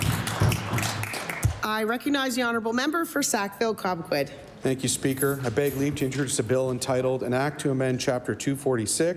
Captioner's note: applause